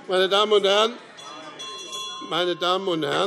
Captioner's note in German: Glockenzeichen